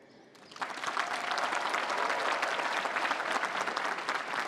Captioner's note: applause